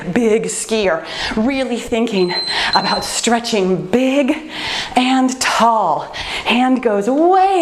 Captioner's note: timer beeps